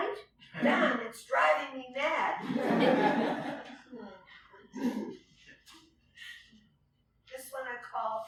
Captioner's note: laughter